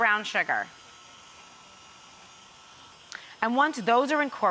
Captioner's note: mixer whizzing